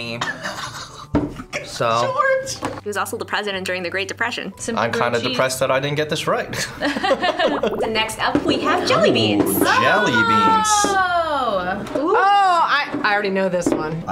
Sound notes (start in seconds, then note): 0.4 snickers; 6.9 laughs